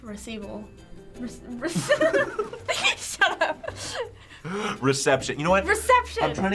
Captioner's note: laughing